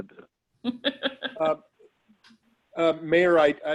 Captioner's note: laughing